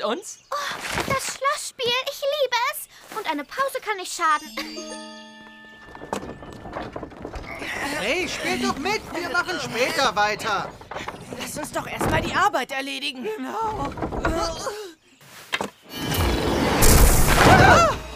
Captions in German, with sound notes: Oh, ich liebe das Schloss-Spiel! Eine Pause kann nicht schaden. (Ächzen) He, spielt doch mit, wir machen später weiter. Erledigen wir erst die Arbeit. Genau! (Ächzen) (Zauberhafte Klänge) (Schreckenslaute)